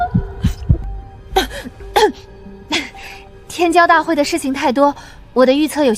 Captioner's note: cough cough